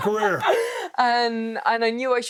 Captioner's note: Becky laughing